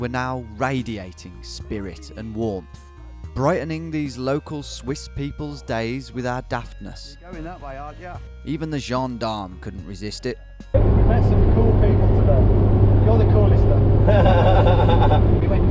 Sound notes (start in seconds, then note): 6.6 electronic music playing; 10.7 engine noise rumbling; 14.0 driver laughing